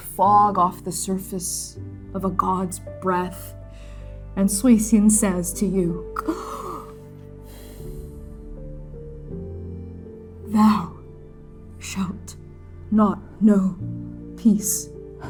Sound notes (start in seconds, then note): 6.3 exhaling; 7.4 gasping